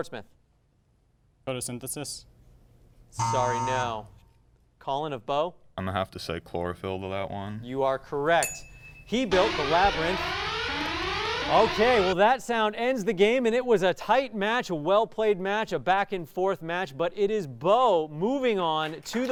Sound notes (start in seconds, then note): 3.2 buzzer sound; 9.0 alarm sound